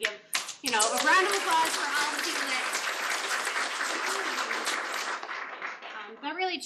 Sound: applause

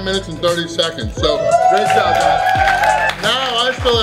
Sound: applauding

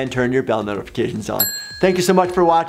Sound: bell ringing

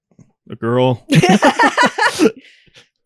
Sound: cackle

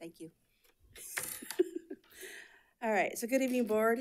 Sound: chuckling

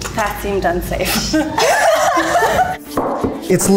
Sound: all laughing

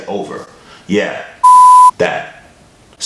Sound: loud beep

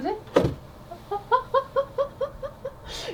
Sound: laughing

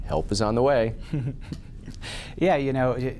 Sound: chuckles

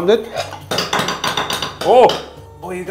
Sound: clattering

